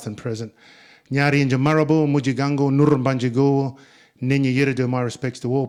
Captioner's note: speaking in Ngunnawal